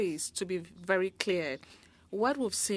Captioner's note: speaking French